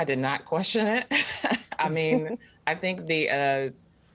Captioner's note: laugh